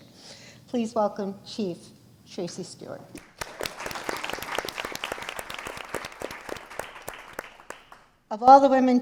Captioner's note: applause